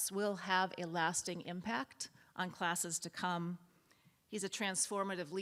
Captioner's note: none